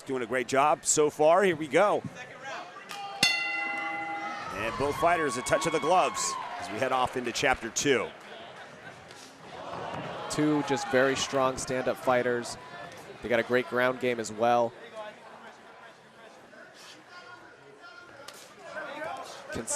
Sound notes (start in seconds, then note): 3.2 bell rings